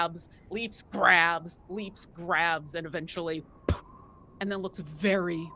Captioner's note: sputters